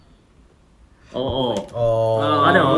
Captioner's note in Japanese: 小声で